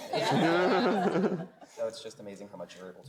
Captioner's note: group laughs